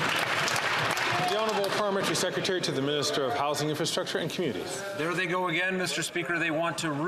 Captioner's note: some Applause